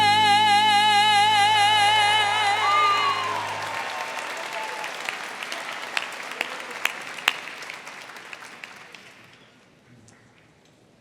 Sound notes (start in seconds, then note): 1.8 audience cheering; 2.2 audience applauding